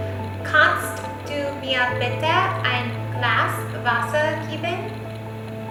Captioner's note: speaking in foreign language